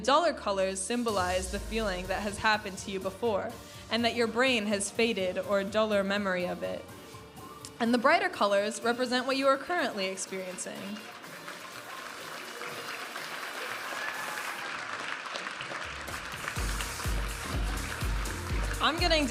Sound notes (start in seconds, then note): 10.9 audience applauding and cheering; 15.8 vibrant music